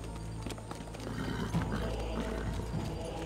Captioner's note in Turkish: At kişneme sesi